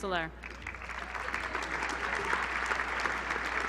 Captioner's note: applause